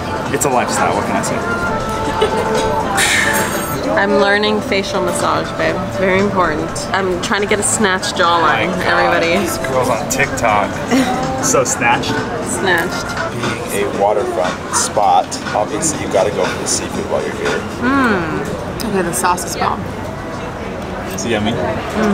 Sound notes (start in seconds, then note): 3.3 diners murmuring; 10.8 laughing